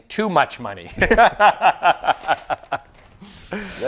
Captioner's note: laughter